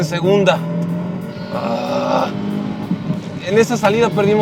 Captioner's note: engine revving